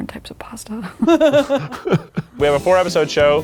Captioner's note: people laughing